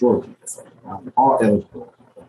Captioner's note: speaking faintly